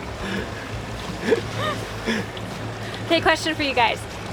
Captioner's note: laughs quietly